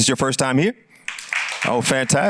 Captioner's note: applause